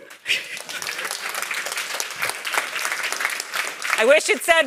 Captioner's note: audience applauds